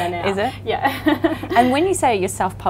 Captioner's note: laughs